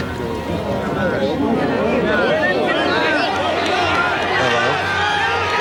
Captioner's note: crowd chattering